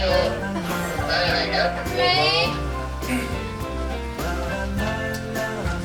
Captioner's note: bursts into laughter at looking over after dropping paper